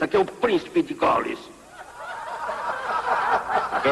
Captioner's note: laughter